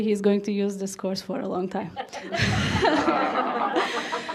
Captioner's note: laughs; audience laughs